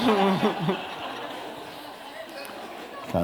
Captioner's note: laughter